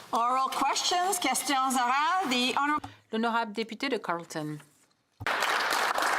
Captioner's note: applause